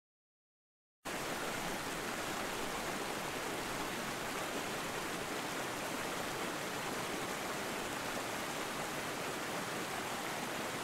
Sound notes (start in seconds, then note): 1.0 sound of river